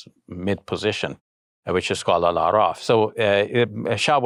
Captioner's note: speaking in foreign language